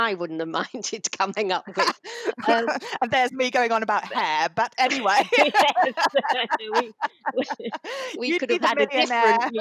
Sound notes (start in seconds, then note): 4.6 laughter